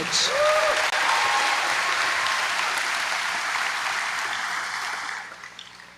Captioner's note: applause